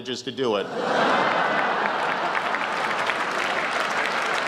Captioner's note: laughter, applause